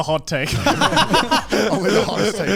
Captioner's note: all laugh